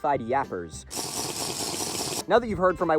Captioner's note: Minecraft slurping noises